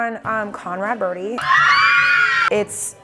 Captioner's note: Conrad Fan Club Screaming